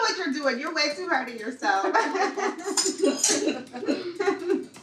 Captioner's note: laughing